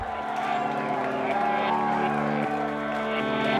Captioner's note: laugh